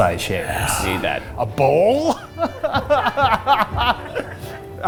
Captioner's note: laughs